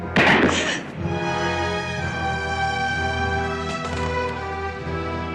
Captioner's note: gasps